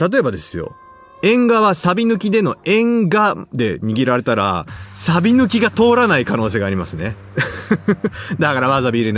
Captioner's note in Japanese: 笑い